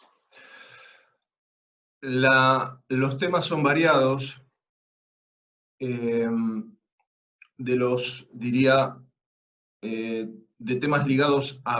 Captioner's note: Spanish